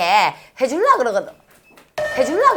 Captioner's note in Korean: 삑 삑 삑